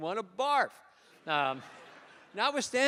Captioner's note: laughter